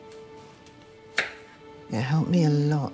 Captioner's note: knife chopping